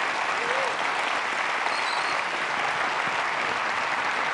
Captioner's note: applause